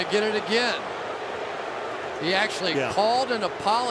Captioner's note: booing